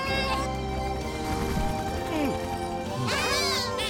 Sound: Bongolalas cheer

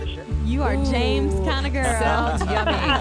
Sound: laughs

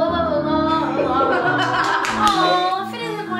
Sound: all laughing

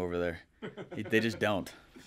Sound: laughing

